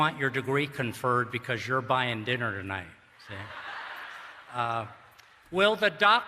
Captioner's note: laughter